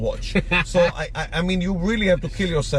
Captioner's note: laughs